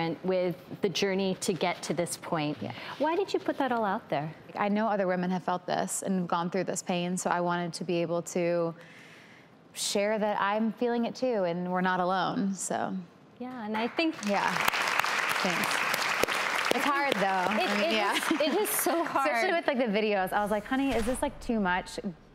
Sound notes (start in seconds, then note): 13.7 audience clapping